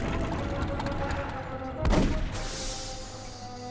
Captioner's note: engine stops